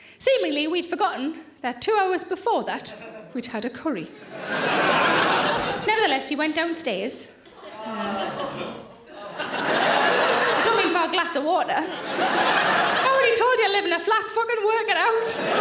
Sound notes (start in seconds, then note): 4.1 audience laughing; 15.1 audience laughing